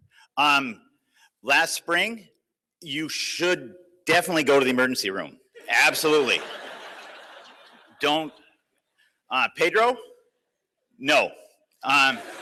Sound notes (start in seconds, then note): 5.8 laughter